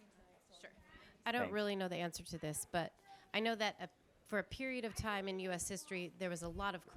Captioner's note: feminine voice